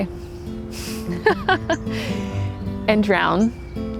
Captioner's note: laughs